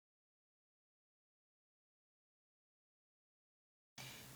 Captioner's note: silence